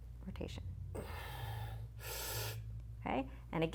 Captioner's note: breathes heavily